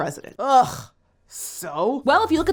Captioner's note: groans